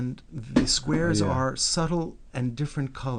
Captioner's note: voiceover